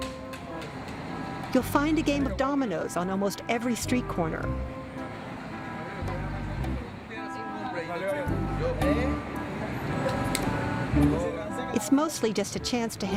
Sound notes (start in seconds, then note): 4.8 speaking spanish